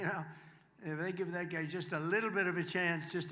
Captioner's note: applause